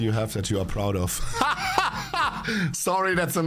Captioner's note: laughs